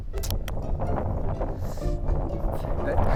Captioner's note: inhales